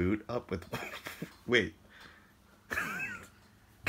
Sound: laughs; laughs

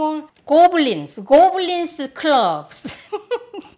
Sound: laughter

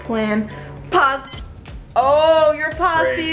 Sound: machine beeps

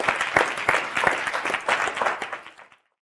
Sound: audience applauding

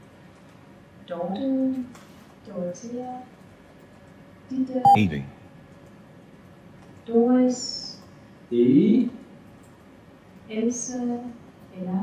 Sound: computerized voice "70"

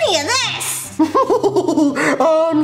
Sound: laughs

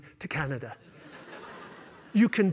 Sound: laughter

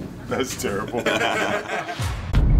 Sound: all laugн

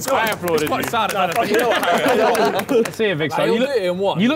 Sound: laughing

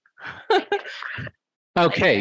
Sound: laughs

